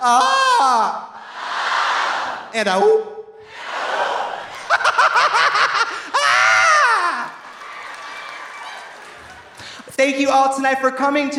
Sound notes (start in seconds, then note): 0.0 Trixie screams melodically; 1.2 audience screams melodically; 4.6 Trixie cackling; 7.6 audience applauding; 7.6 audience laughing